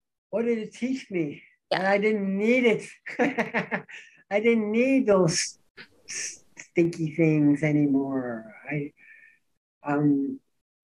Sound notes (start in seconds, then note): 3.0 laughs